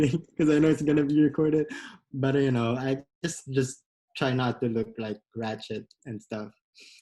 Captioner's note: laughs